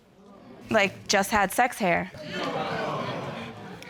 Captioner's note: audience exclaiming